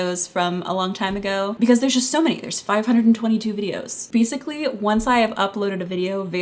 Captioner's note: none